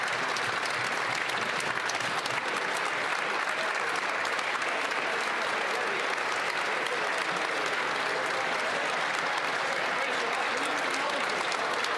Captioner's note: applause